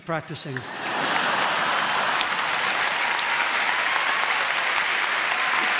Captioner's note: audience laughing and applauding